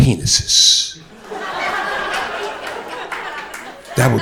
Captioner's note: crowd laughter